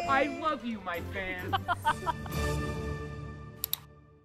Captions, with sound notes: - I love you my fans. (laughing) (mouse clicking)